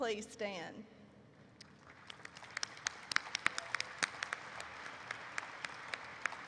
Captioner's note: applause erupts